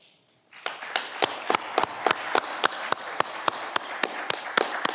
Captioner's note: audience clapping